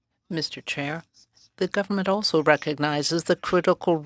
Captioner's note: speaking French